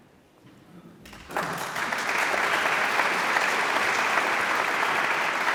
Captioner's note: audience applauds